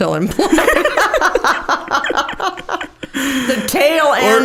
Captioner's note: both laughing